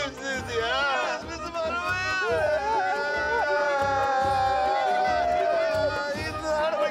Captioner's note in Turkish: Ağlama sesleri